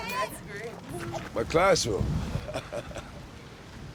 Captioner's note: laughs